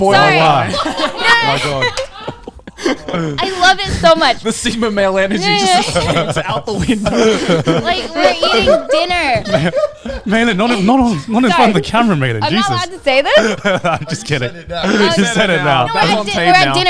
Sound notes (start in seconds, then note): 0.2 all laughing; 7.9 all laughing; 14.2 laughing